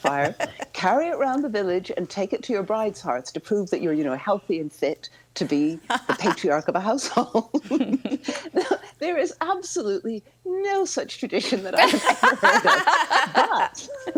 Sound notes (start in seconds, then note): 5.8 laughs; 11.8 all laughing